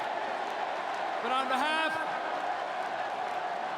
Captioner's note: applause; cheering